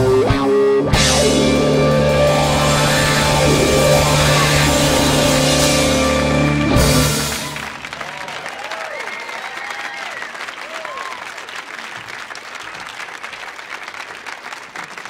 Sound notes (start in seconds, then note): 7.5 audience applauding; 7.5 audience cheering